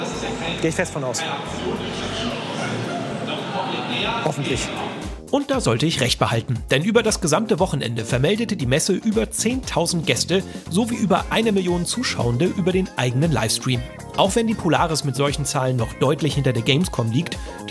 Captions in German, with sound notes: Geh ich fest von aus. (Stimmengewirr, ferne Lautsprecherdurchsage) Hoffentlich. Und da sollte ich recht behalten. Über das gesamte Wochenende vermeldete die Messe über 10.000 Gäste sowie über eine Million Zuschauende über den eigenen Livestream. Auch wenn die Polaris mit solchen Zahlen deutlich hinter der Gamescom liegt,